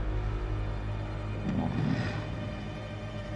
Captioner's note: Appa grunting